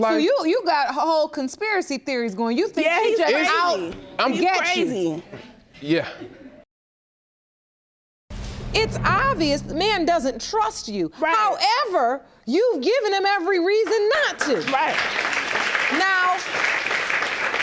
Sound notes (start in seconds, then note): 14.2 crowd applauding